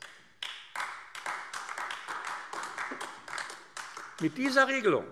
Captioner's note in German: Beifall AfD